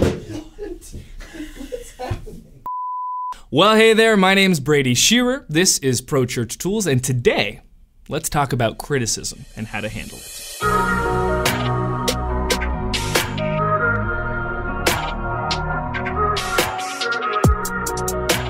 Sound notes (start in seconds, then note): 0.0 thudding; 2.7 beeping; 10.5 soft upbeat music